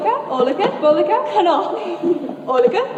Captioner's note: giggles